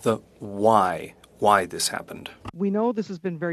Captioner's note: speaking French